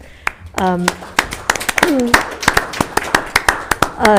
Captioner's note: applause